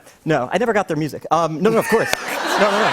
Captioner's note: laughter